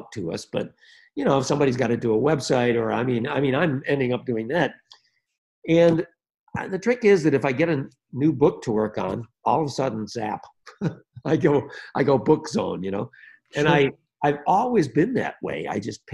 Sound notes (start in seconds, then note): 10.7 chuckles